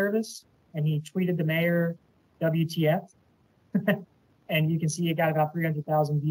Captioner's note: laughs